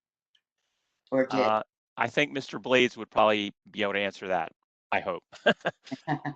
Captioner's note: laughter